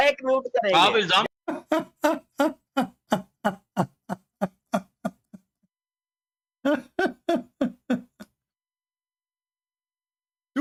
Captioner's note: Ketawa